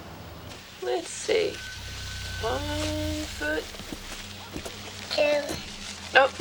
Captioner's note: Janey mutters